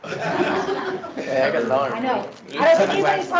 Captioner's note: laughing